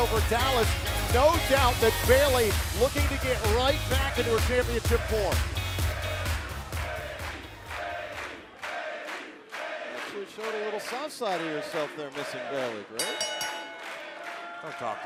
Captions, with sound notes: FROM NXT TAKEOVER DALLAS. NO DOUBT THAT BAYLEY LOOKING TO GET RIGHT BACK INTO HER CHAMPIONSHIP FORM. [FANS CHANTING] SHOWING A LITTLE SOFT SIDE OF YOUR SIDE THERE MISSING BAYLEY, GRAVES.